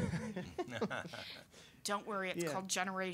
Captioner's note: laughing